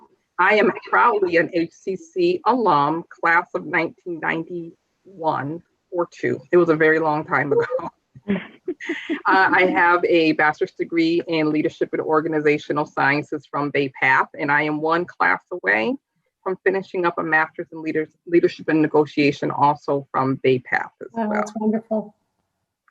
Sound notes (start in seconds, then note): 7.5 laughter